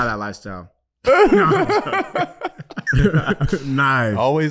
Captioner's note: laughing